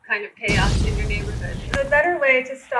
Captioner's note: explosion sound effect